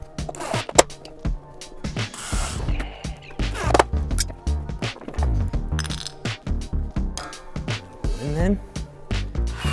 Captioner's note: drill whirring